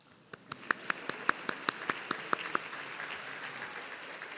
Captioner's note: audience clapping